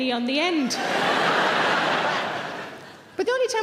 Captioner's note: laughing